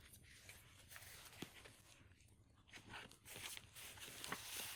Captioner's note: paper rustling